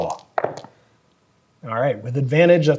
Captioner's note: dice rolling